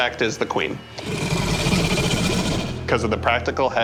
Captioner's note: queen roaring